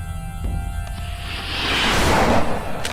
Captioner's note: rocket hissing; magazine clacks